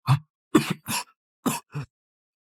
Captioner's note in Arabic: سعال